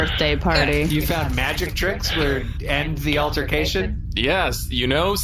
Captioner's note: laughing